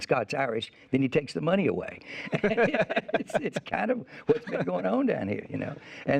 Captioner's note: laughs